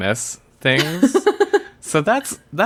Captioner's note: laughs